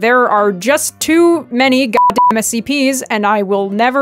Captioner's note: beep